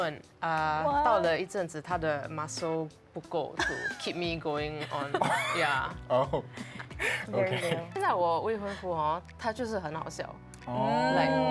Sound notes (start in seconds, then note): 10.7 ohh